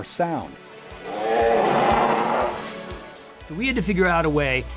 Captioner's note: dinosaur roar